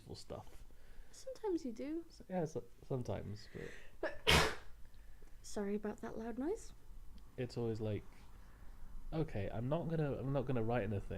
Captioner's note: sneeze